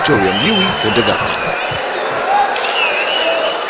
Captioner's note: wild applause and cheering for 22 seconds